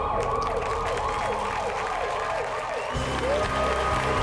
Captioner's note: applause